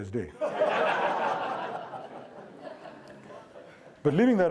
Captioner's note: audience laughing